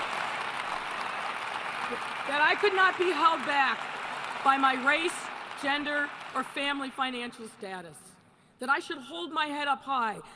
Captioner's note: applause